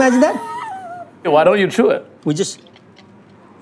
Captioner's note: laughs